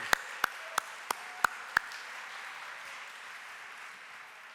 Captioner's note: audience applauding